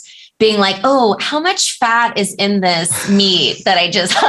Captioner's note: laughter